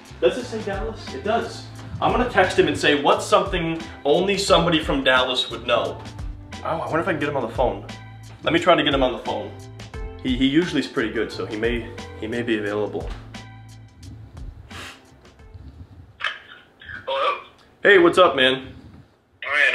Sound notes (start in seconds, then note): 11.4 phone ringing